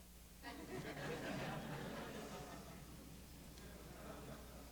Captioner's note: light laughter